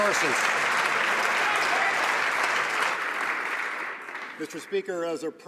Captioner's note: some Applause